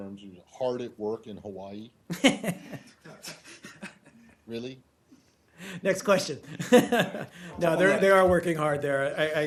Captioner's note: laughter